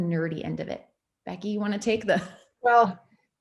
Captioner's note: laughs